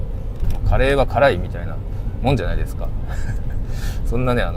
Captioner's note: laughs